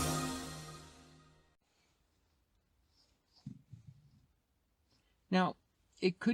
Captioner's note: awkward silence